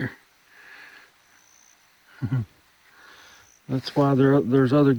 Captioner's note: chuckling